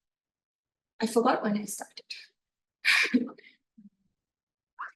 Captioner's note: chuckles